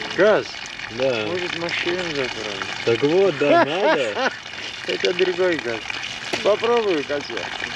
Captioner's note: laughs